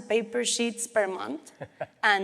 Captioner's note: laughs